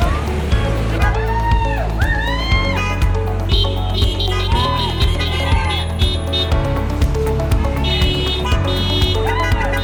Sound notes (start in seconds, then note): 3.5 horns honking; 4.0 crowd cheering